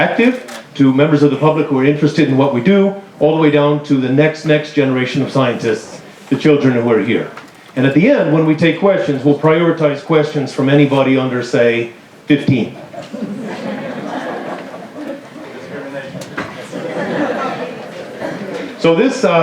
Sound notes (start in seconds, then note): 14.7 laughter